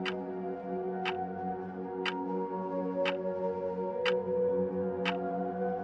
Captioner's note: clock ticking; spirited music